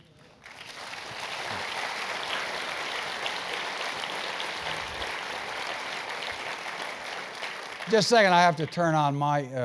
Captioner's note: applause